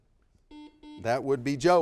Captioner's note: buzzer beeping